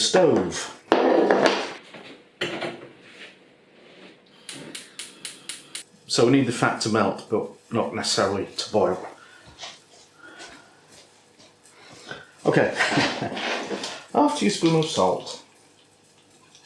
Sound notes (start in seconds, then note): 8.9 silent dancing